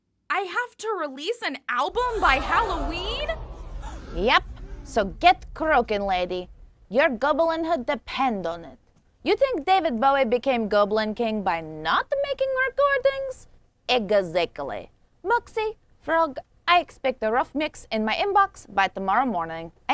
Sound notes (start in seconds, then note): none